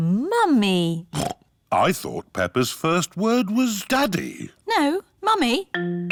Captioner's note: snorts